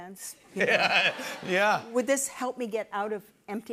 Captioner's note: laughs